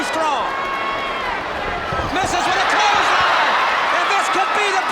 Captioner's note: footsteps plodding; crowd cheering